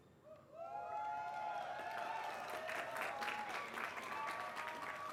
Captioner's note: applause